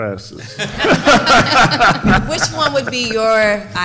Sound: members laughing

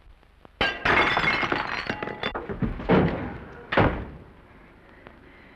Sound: Norman thuds on floor; platter shatters

